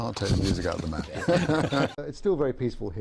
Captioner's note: laughs